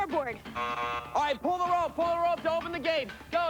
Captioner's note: buzzing